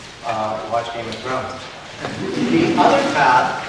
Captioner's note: audience laughs